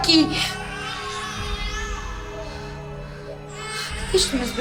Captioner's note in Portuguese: bebês continuam chorando